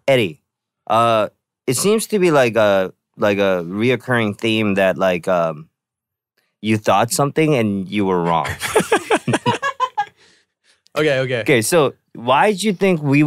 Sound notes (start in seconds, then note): 8.3 laughing